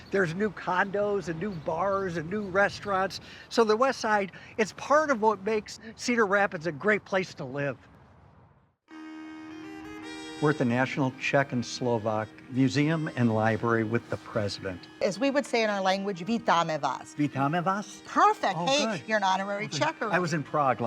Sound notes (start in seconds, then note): 9.1 dramatic music; 16.5 speaking in foreign language